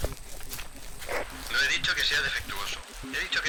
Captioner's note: voice from a walkie-talkie